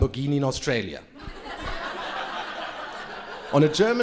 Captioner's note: crowd laughing